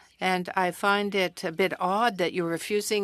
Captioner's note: speaking French